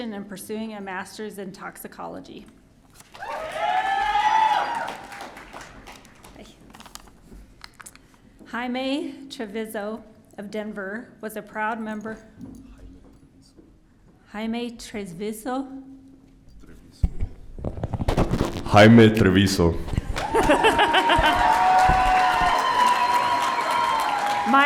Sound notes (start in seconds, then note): 3.2 audience cheering; 20.0 audience cheering; 20.0 laughing